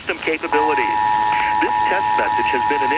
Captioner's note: attention signal, embedded in audio message